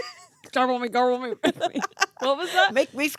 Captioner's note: laughing